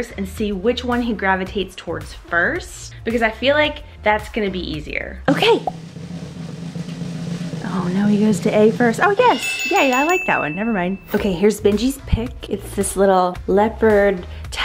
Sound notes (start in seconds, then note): 9.2 bell dings